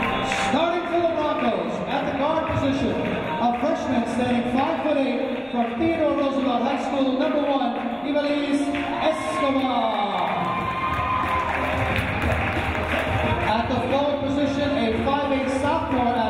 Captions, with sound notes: Starting for the Broncos at the guard position, a freshman standing five foot eight from Theodore Roosevelt High School, number one, Hivelize Escobar. (cheering) At the forward position, a 5'8" sophomore